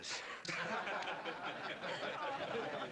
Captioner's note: laughter